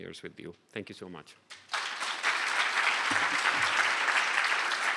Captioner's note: applause